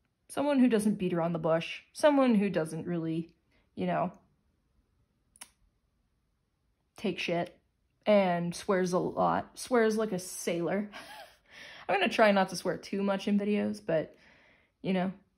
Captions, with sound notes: Someone who doesn't beat around the bush, someone who doesn't, really, you know. Take shit. And swears a lot. Swears like a sailor. (Chuckle). I'm going to try not to swear too much in videos, but, you know,